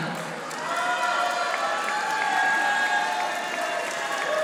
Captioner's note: audience applauding